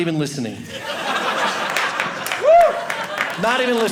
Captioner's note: audience laughing